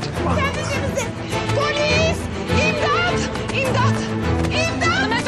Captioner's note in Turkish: bağırmaya devam ediyor